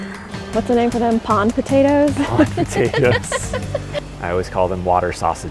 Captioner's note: laughs